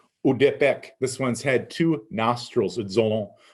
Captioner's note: speaking in Abenaki; speaking in Abenaki